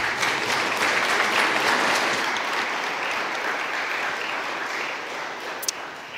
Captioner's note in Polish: oklaski